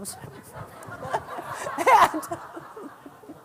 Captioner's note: laughter